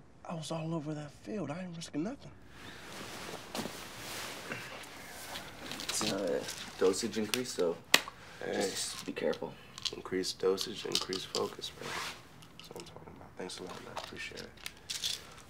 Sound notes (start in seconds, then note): 5.4 pills rattling; 8.9 claps